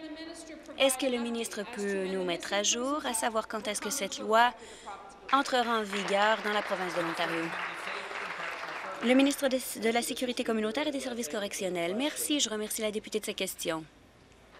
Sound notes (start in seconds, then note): 9.6 applause